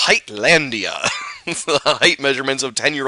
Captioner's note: laughs